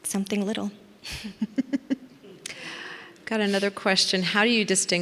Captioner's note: laughs